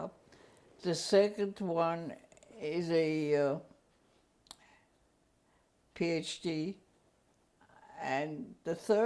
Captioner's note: pauses for 3 seconds